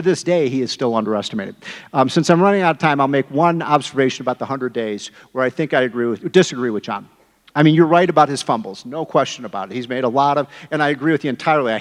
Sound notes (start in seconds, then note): none